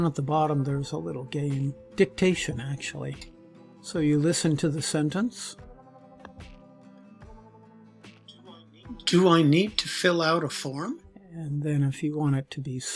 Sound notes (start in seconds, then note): 5.2 recorded voice